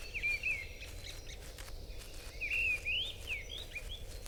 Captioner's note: birds chirping